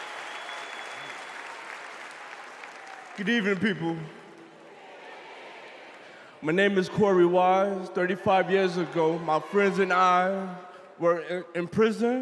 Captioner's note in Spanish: VíTORES